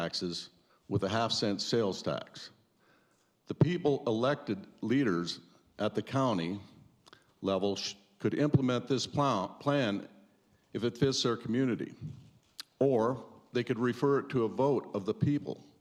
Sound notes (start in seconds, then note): none